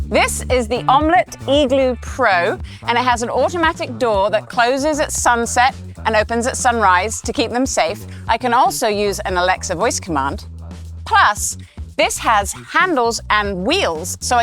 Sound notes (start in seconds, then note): none